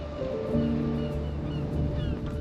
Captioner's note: gulls mewing